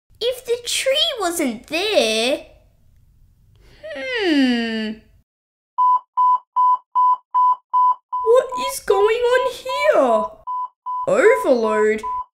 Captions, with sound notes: If the tree wasn't there... Hmmmm... (Beep! Beep! Beep!...) What it going on here? Overload?